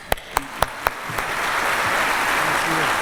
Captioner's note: applause